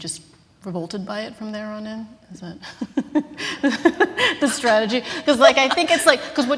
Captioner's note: laughter